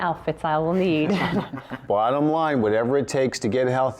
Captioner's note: laughter